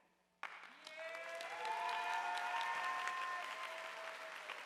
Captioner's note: audience applauding